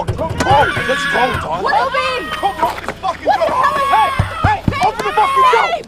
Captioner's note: baby whaling